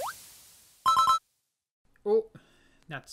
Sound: tuna collecting sound

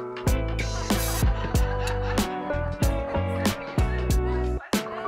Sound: laughing

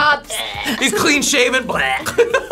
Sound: retching

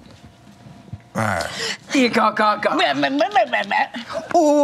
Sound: grunting

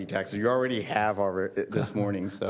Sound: laughter

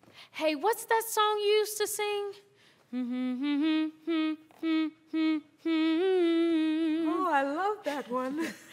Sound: humming

